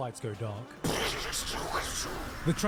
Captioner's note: punching